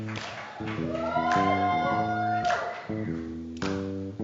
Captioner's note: audience cheers